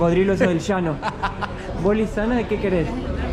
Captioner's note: laughs